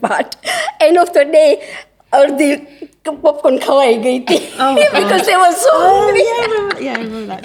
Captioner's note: laughter